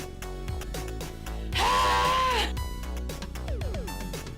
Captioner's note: ahhhhh; techno music